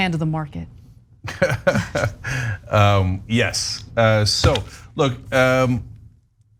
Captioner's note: laugh